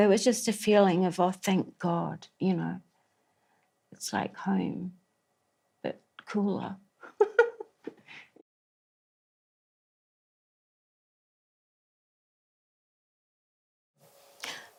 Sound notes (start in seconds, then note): 7.0 laughs